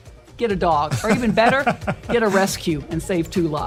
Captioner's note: laugh